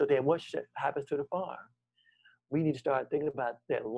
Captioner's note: none